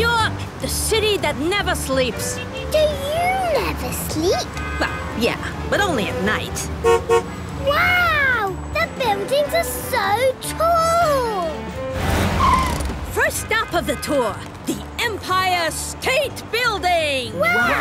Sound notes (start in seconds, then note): 7.1 honks